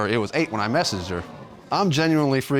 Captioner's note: audience gasps